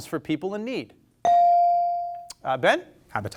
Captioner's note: bell sounding